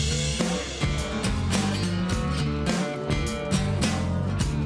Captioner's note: cattle lowing